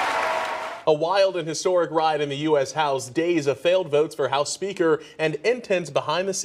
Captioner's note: applause